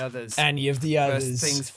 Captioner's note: mocking